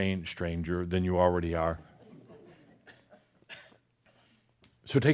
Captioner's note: some chuckles